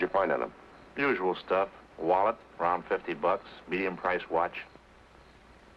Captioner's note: none